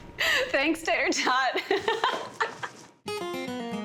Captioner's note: both laughing